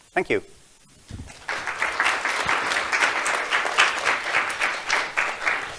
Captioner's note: audience clapping